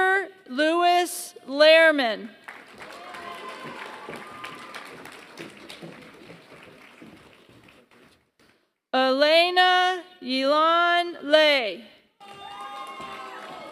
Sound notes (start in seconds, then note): 0.0 applause; 12.2 applause